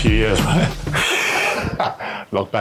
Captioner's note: laughs